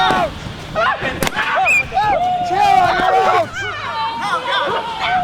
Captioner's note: balloon pops; campers screaming